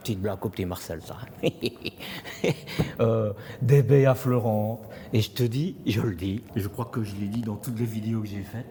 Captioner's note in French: rires